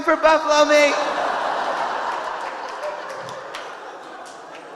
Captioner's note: audience laughing